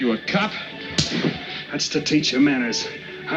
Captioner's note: slap craps